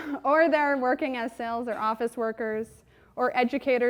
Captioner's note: chuckles